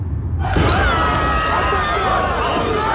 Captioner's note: yelling